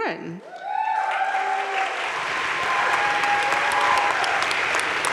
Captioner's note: crowd cheering and applauding